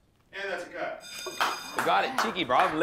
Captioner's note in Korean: 종소리